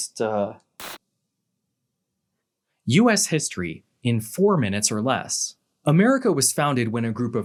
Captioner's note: TV static